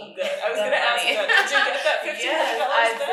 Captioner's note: laughing